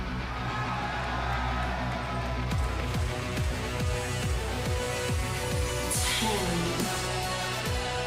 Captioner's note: cheers and applause